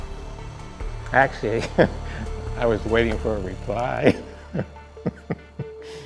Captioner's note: laughs